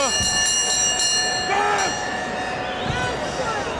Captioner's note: bell ringing